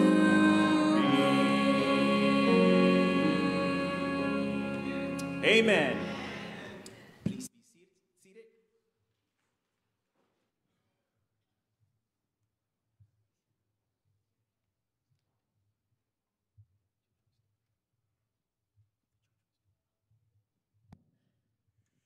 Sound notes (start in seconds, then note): 7.5 silence